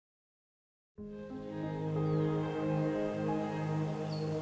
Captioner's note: birds chirping